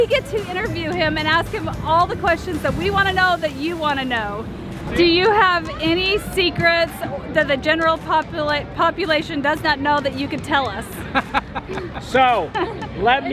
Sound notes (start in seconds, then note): 11.0 laughs